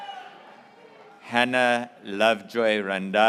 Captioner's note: graduates cheering